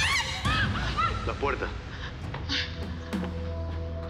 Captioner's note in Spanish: Gritos